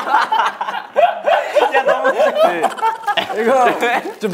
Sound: hahahahahaha

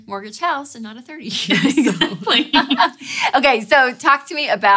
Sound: laughing

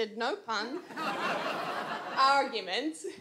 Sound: audience laughs

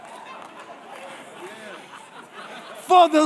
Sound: congregation laughing

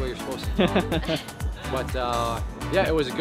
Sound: laughing

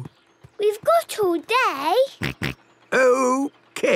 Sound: snort

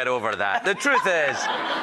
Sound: audience laughing

